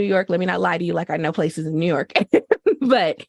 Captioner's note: laughter